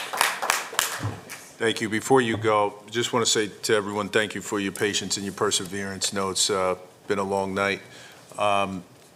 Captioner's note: applause